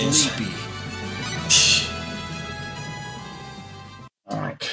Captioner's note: scoffs